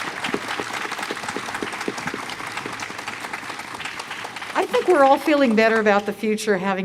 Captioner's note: cheers & Applause